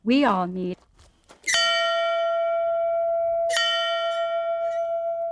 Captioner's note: bell ringing